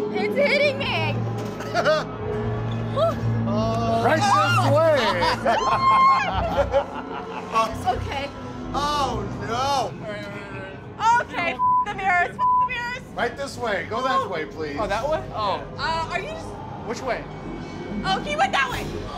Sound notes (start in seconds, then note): 1.6 laughs; 5.5 screams